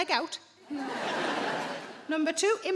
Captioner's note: audience laughing